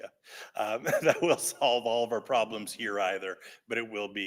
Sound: laughs

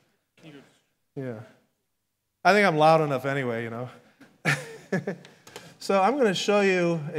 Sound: laughs

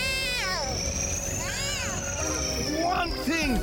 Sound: whirring

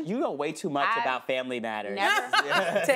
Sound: laughs

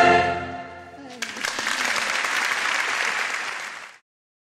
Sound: audience applauding

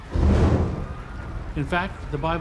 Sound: roaring flames

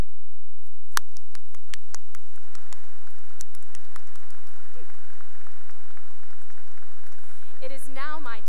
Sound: applause

